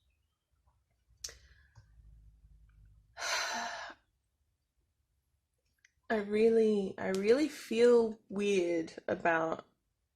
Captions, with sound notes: [heavy sigh] I really... I really feel weird about